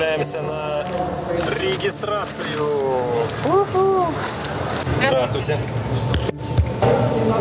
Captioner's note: airport sounds